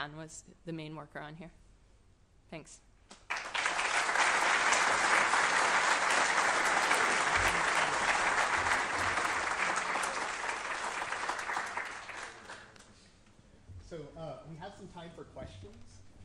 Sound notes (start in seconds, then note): 2.7 applause